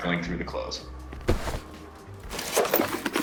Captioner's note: thud; rifling